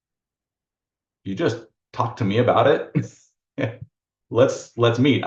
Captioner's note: chuckles